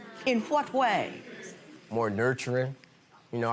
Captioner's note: audience groaning